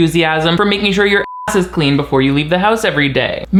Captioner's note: beep